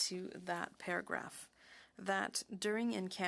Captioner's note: speaking French